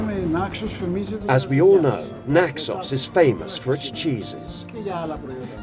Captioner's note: man speaking Greek